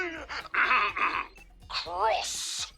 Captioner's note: clears throat